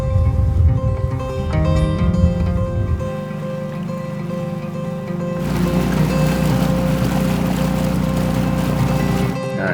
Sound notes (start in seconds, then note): 4.0 engine rumbling